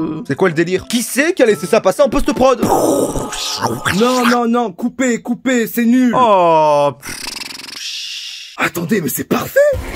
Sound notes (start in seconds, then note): 3.2 makes sounds on the microphone